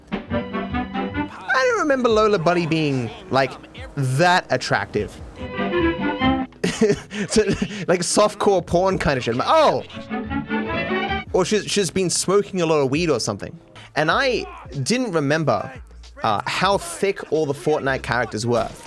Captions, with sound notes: [old-timey music plays] I don't remember Lola Bunny being, like, that attractive. [old-timey music plays] [laughing] So, the-- Like softcore porn kind of sh*t. I'm like, "Oh!" [old-timey music plays] Or she-- she's been smoking a lot of weed or something. And I didn't remember, uh, how thicc all the Fortnite characters were.